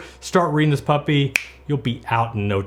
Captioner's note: snaps fingers